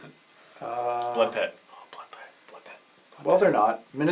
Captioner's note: whispers